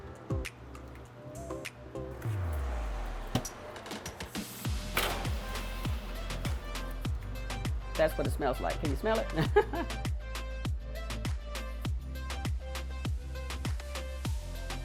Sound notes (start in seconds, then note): 0.3 calm music; 9.3 laughs; 10.9 upbeat music